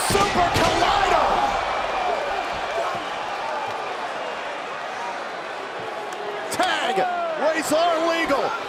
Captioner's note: crowd cheering